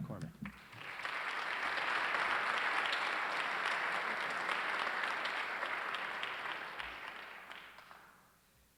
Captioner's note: applause